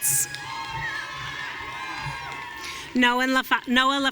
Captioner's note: audience cheering